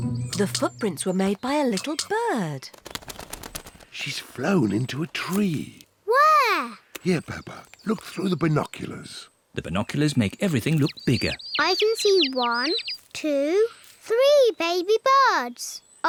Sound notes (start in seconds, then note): 9.6 chirping